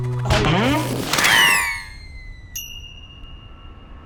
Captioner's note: ding!